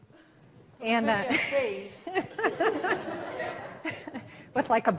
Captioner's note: all laughing